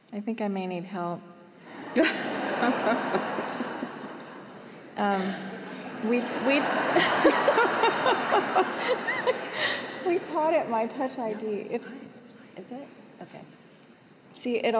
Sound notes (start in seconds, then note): 5.5 laughter